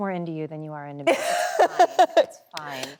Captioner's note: Emily laughs cheerfully